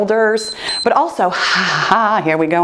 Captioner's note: timer beeps